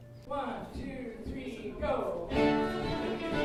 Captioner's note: voiceover; upbeat music